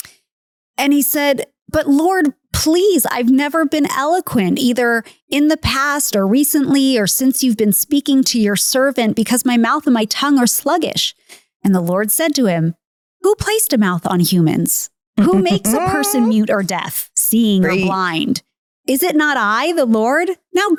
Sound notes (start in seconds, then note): 17.6 laughing